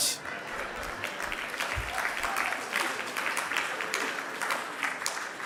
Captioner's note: audience applauding